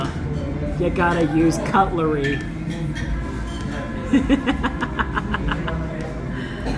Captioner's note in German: Gelächter